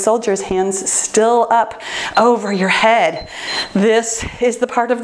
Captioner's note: timer beeps